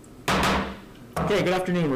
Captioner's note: gavel bangs